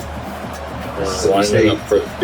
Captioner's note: crowd Noises